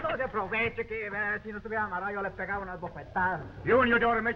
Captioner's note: Pablo speaking in foreign language